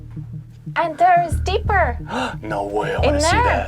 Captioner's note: gasps